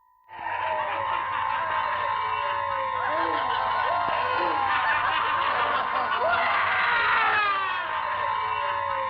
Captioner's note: laughing